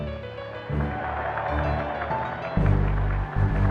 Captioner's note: applause